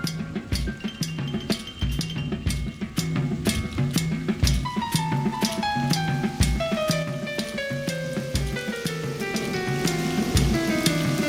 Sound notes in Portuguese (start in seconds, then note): 7.0 gotejos fortes de água; 9.4 trovoada